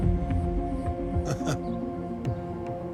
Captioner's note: chuckles softly